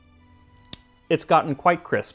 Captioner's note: snap